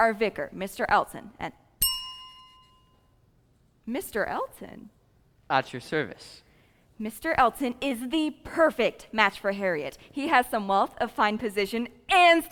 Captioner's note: ding